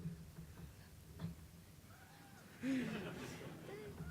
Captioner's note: whispering; audience chuckles